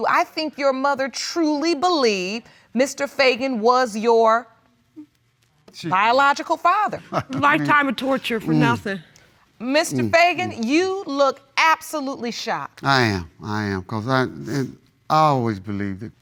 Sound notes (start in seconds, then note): 7.0 chuckles